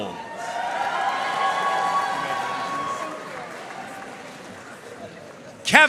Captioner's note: audience cheering and applauding